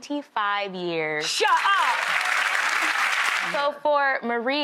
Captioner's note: audience applauds